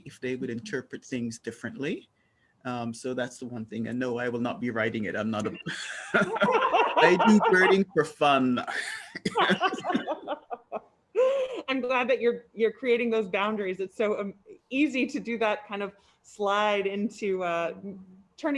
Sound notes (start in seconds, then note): 5.5 panel laughing; 9.6 laughs